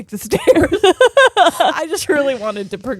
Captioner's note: both laughing